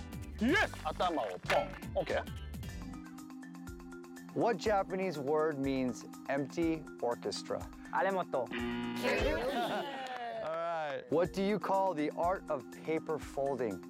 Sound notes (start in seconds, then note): 7.5 speaking Japanese